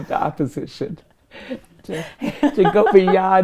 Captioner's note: laughing; chuckling